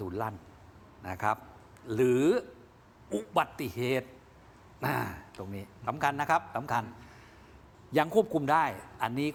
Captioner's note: clears throat